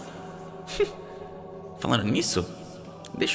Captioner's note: laughs